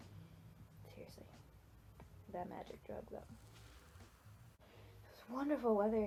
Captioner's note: short burning sound effect